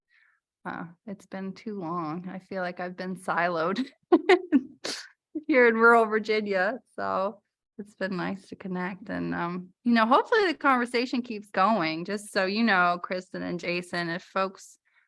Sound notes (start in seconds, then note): 4.1 laughter